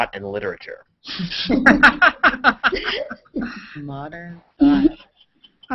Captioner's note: laughter